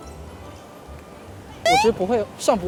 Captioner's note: inhales